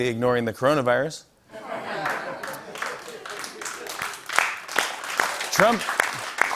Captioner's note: laughter